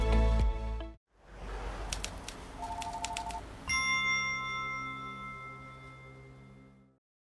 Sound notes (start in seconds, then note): 2.6 telephone rings; 2.6 keyboard clicks; 3.6 bright chime